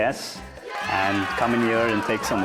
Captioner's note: cheering